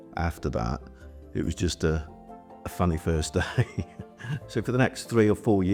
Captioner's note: laughs